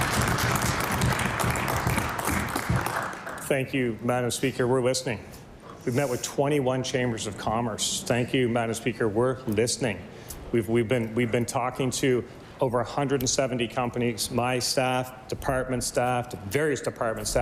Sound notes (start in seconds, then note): 4.2 applause